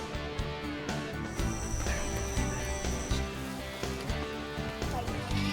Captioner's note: cricket chirps; upbeat music plays; children laugh